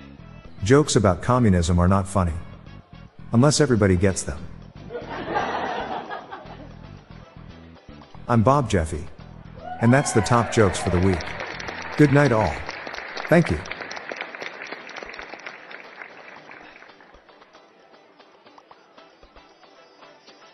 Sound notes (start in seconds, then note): 4.9 laughter; 13.8 applause